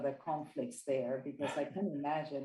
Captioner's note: chuckle